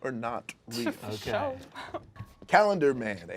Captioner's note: overlapping chattering